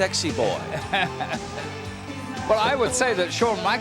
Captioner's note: laugh